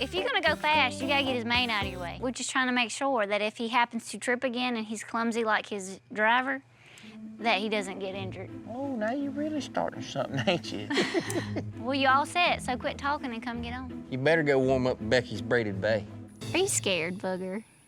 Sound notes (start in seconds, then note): 10.3 laughs